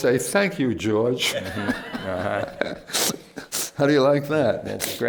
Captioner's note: laughter